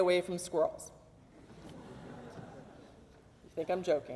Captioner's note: audience laughs